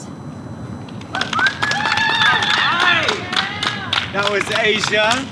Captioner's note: audience cheers and applauds